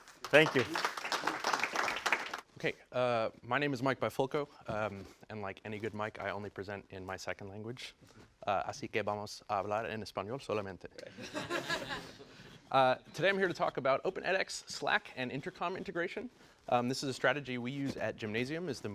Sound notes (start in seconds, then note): 0.0 applause; 9.4 laugh